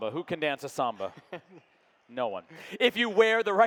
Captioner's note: laughing